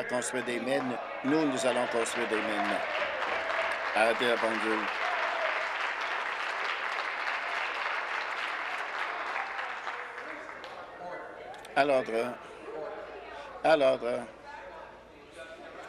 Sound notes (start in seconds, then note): 5.2 applause